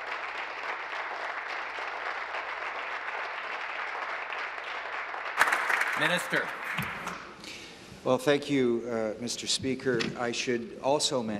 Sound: applause

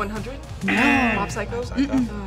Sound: buzzer; buzzer rings

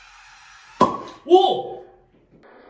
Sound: pop!

